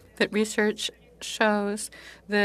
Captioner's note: speaking in French